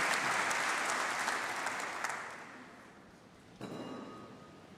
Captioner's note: applause